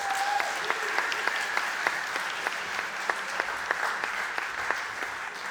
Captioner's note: audience applauding and cheering